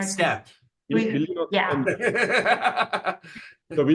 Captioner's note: laughing